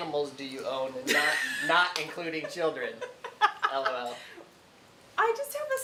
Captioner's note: laughing